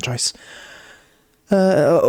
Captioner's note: inhales deeply